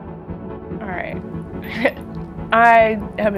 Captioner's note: chuckles